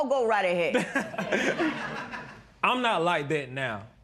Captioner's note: laughter